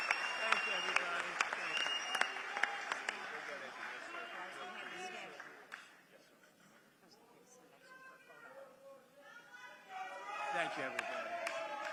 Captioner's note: applause